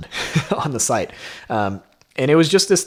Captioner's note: laughs